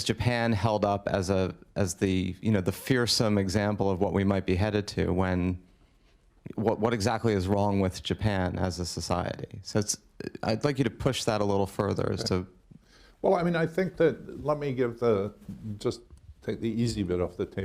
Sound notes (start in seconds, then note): none